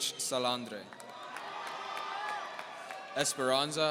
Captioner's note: audience cheering